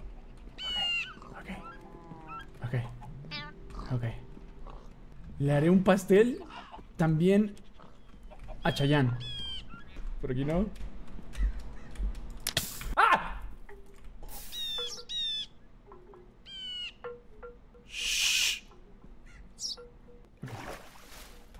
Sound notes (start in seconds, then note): 0.1 whispering; 12.3 flame ignites; 13.7 flame extinguishes; 14.4 birds chirping